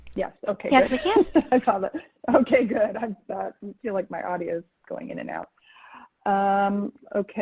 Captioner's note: laughs